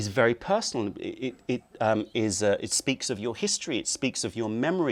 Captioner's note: speaks